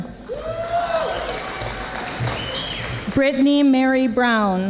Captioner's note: audience applauding